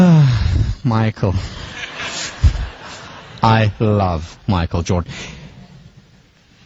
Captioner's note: laugh